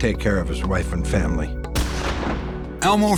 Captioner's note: gunshot